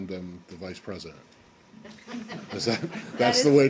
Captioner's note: laughter